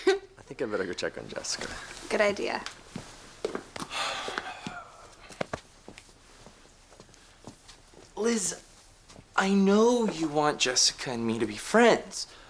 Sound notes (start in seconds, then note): 3.8 sighs